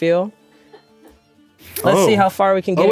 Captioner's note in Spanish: el equipo ríe